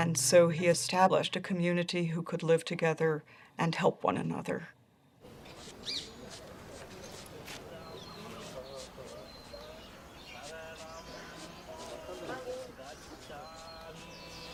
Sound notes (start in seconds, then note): 6.1 scraping; 11.1 chanting in distance